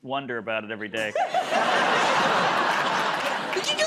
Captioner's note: laughter